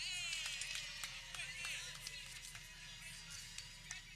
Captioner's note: people clapping